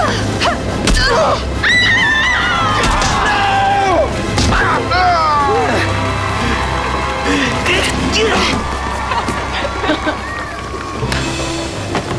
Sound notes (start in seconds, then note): 1.6 screaming; 4.8 groaning; 9.4 laughing